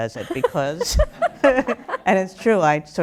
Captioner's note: laughter begins, starting